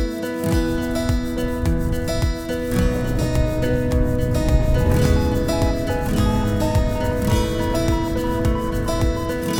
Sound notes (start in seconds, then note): 3.3 wind whooshing